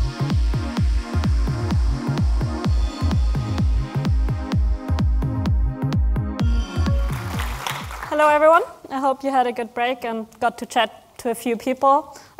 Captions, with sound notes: (upbeat pop music) (audience clapping) - Hello everyone, I hope you had a good break and got to chat to a few people.